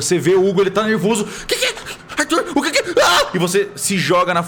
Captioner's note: screams